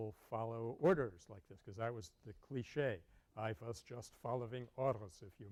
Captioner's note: German accent